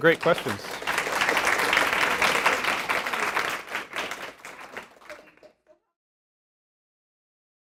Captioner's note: applause